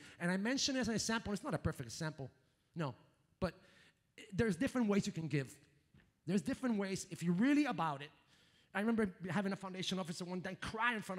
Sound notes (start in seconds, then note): none